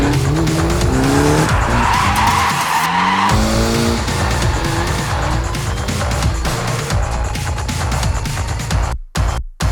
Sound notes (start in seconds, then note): 2.1 tires squeal